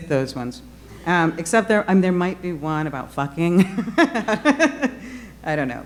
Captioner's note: laughing